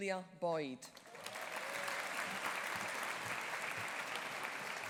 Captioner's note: audience applauding